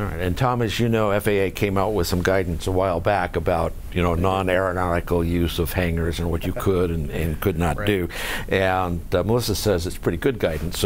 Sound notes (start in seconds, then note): 6.3 chuckles